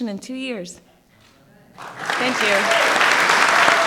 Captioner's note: applause